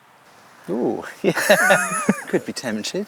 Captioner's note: both laugh